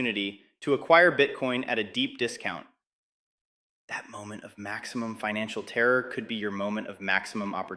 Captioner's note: whispers